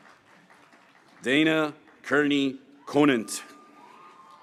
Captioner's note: graduates cheering